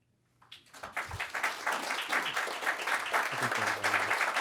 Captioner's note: audience applauding